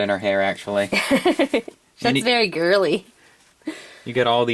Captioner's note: laughs